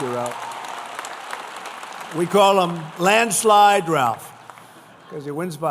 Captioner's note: applause